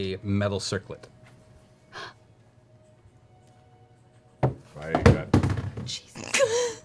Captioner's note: water bottle falls off the table loudly